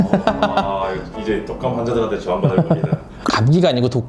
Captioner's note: boo~